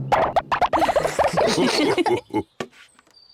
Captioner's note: all laugh